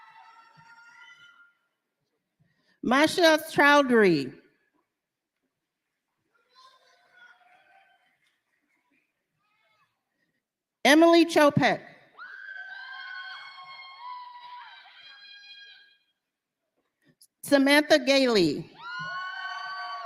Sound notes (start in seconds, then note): 7.5 cheers and applause